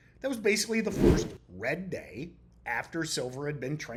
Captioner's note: screen whooshing